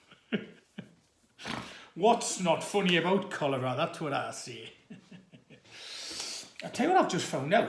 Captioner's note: laughs and snorts